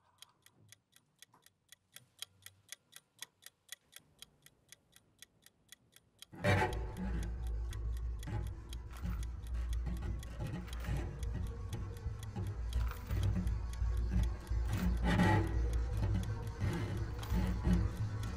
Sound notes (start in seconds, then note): 6.3 timer ticking